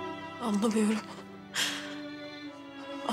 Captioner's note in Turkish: Nefes çeker